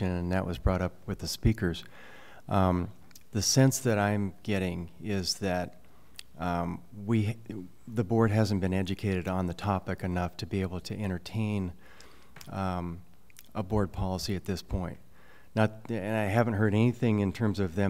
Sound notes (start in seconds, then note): none